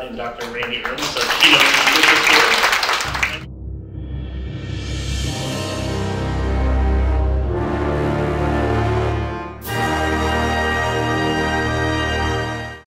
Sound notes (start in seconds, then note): 0.1 audience applauds; 3.4 dramatic orchestral music